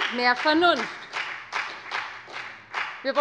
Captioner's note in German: Beifall bei der FDP